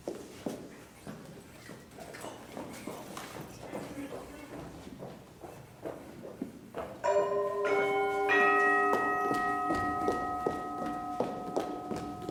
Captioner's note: doorbell chimes